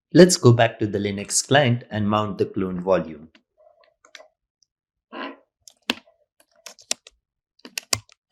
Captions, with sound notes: Let's go back to the Linux client and mount the cloned volume. (keystrokes clicking)